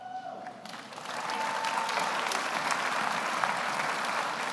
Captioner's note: audience applauds